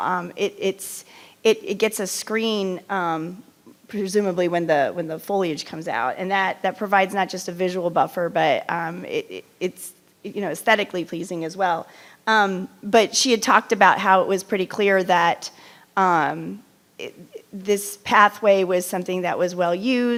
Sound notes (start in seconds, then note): none